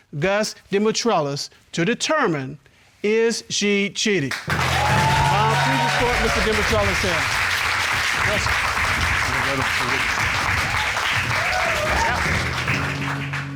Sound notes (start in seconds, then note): 4.2 audience applauds; 7.5 audience applauding; 11.4 audience cheering, applauding